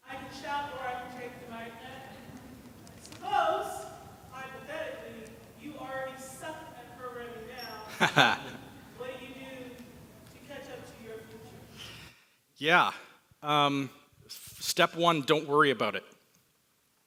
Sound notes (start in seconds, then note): 7.9 laughs